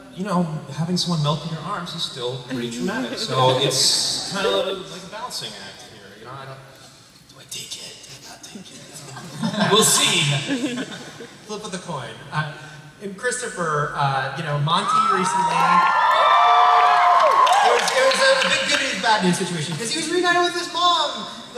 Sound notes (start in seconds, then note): 14.7 cheering